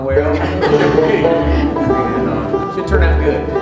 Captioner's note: laughter